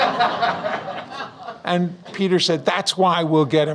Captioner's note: audience Laughs